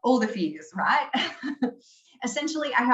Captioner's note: laughing